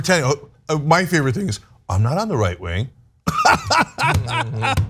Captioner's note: laugh